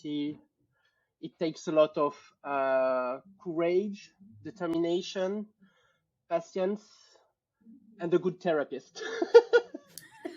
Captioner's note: laughter